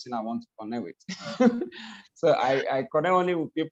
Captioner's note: laughs